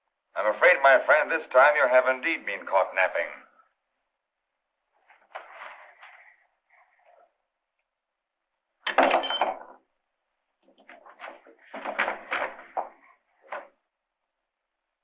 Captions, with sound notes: I'm afraid, my friend, this time you have indeed been caught napping. - [loud thud] - [cutlery rattling]